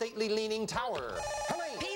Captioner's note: buzzer